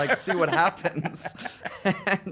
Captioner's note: laughing